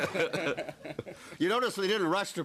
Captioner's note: laughter